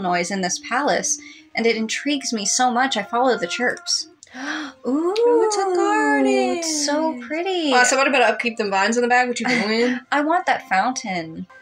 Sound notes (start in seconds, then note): 4.3 gasp; 9.4 chuckle